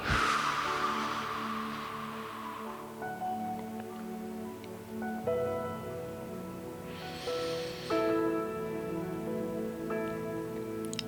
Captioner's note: exhaling